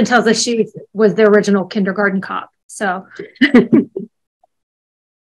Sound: laughs

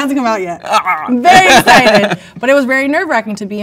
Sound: laughs

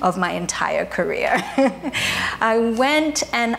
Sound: chuckling

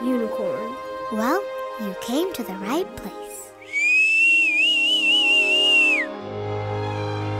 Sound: whistles; magical music

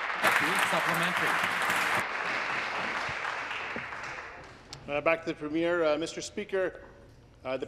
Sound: applause

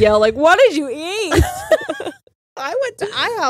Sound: both laugh

